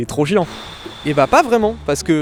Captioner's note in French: souffle